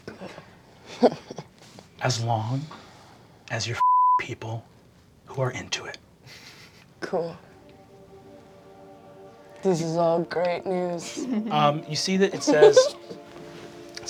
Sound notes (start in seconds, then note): 0.8 laughing; 3.6 beeping; 7.2 choral music